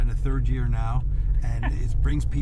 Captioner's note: laughs